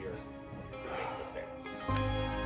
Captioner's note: deep breath